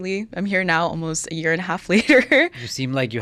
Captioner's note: laughs